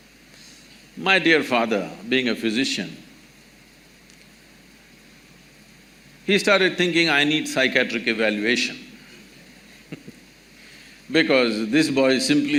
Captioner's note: laughs